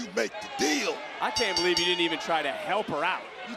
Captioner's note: bell rings